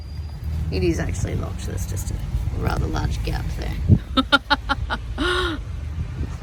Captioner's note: laughs